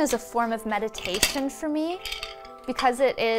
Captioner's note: shuttle rattles